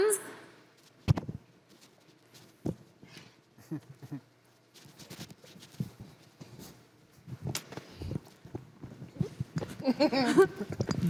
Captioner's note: laughing!